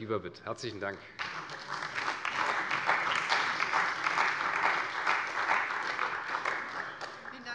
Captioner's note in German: Beifall bei der CDU